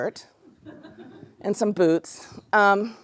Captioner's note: laughter